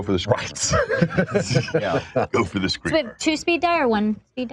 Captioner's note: all laugh